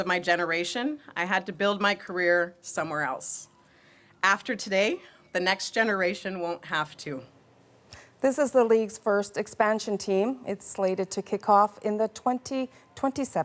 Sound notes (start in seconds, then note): none